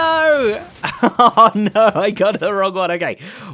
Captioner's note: laughs